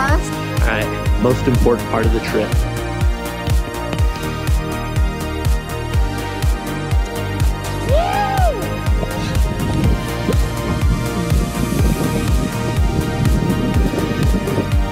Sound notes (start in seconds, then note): 3.4 upbeat music; 7.8 dad screaming; 10.4 upbeat music